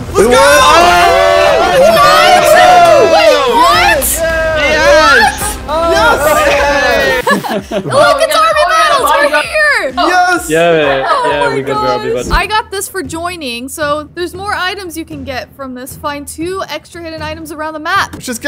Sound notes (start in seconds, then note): 1.1 group cheering